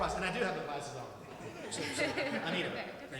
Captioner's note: laughs